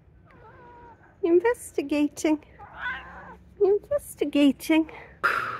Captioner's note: cat meow